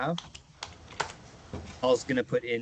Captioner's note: typing sounds